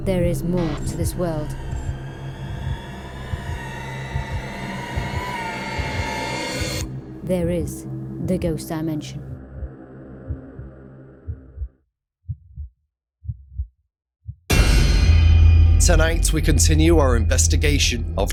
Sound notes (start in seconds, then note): 2.4 suspenseful screeching; 10.2 heart beating